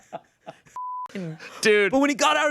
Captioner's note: laughs; beep